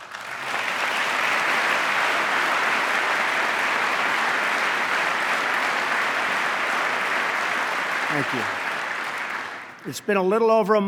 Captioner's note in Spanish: aplauso